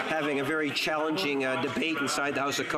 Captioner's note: applause